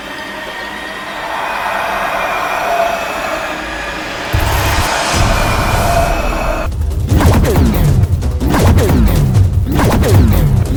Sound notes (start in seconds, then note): 7.2 sword whining